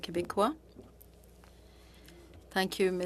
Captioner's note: speaking French